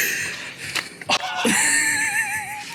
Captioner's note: noise of wood cracking and gasping in pain; laughing